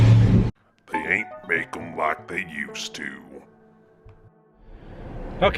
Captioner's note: deep accented voice